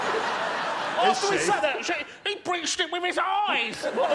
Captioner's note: laughter